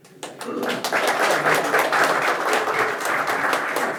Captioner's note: audience applauds